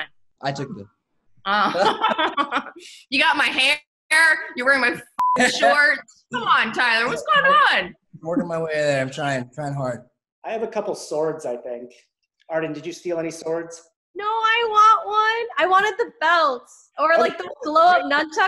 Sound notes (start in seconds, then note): 1.6 laughing; 5.1 beep